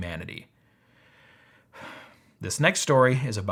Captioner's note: exhaling deeply